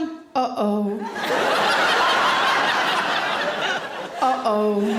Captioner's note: audience laughing loudly